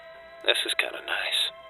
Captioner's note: fire Crackling